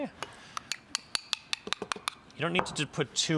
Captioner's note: bowl clanks